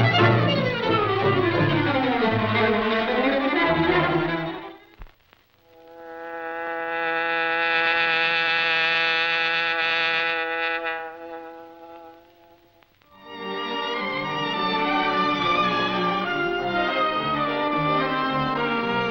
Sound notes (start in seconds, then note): 5.9 bee buzzing; 13.2 dramatic orchestral music